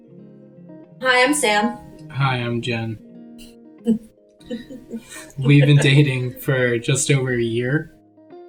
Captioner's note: laughs